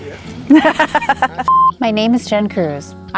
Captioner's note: person laughing